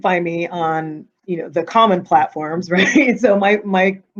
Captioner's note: chuckling